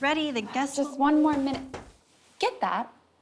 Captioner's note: knocking